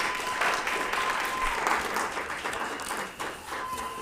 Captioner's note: applauds